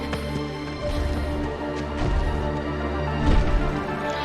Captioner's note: slow heavy steps